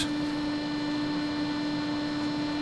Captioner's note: machine whirring